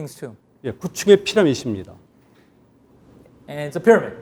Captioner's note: speaking in Korean